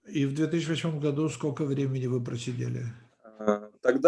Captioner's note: translator speaking Russian language; speaking Russian language